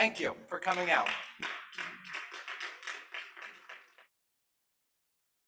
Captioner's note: applause